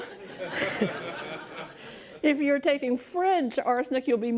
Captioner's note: laughs